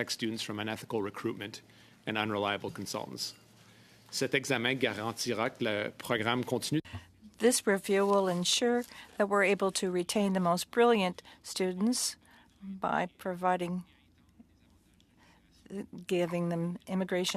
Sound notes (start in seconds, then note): 9.9 speaking French